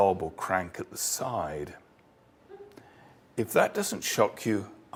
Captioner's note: laugh